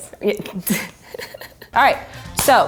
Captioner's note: laughing